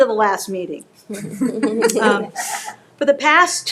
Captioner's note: people laughing